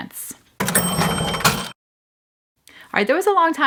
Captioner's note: coins clinking